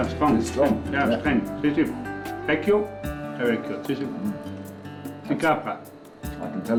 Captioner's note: speaks dialect